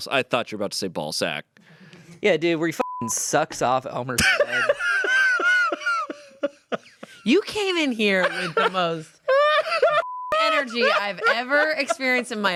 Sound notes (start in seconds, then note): 2.8 beep; 4.2 laughs; 10.0 beep